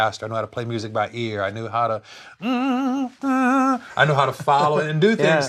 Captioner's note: hums; laughs